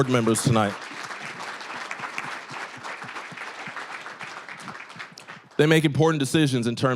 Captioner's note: applause